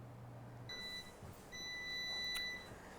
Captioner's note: beeping